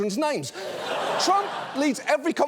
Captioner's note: audience laughs